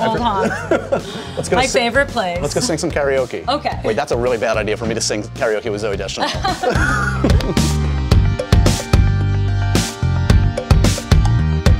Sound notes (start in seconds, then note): 6.2 laughing; 7.6 upbeat music